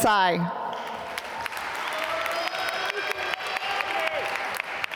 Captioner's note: applause